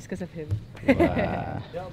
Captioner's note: laughs